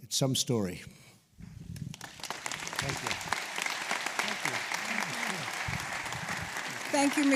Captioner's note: applause